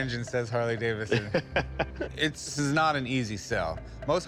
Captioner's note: laughs